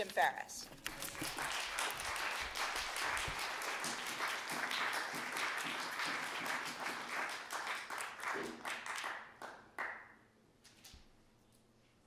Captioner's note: applause